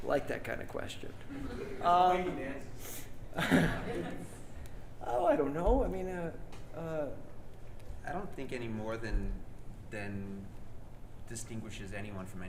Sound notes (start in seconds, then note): 3.3 laughs